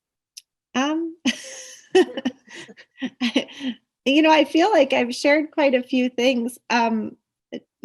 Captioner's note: laughs